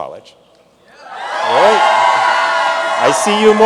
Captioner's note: audience cheering